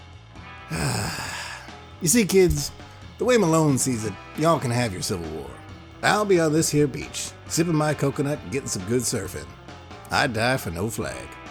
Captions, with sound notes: [sigh] You see kids, the way Malone sees it, y'all can have your Civil War. I'll be on this here beach sipping my coconut getting some good surfing. I'd die for no flag.